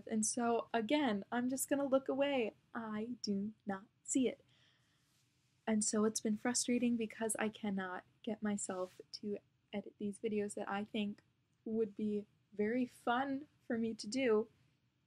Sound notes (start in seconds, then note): none